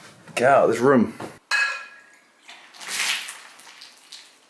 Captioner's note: water splashes